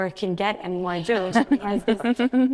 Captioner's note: laughs